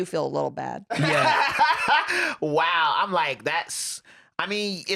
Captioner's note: laughs